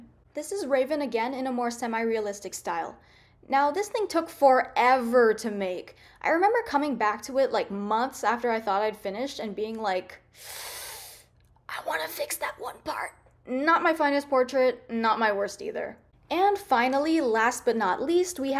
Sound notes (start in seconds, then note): 10.4 hiss